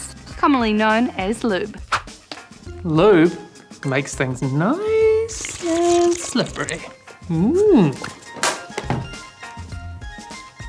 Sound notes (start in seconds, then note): 5.2 bottle squirts; 8.3 bottle clatters